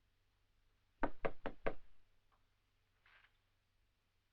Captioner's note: knock at door